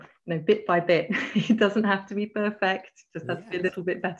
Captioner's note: laughs